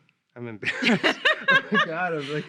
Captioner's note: laughing